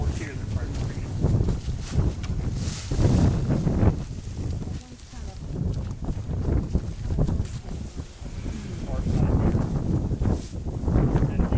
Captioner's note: sound of wind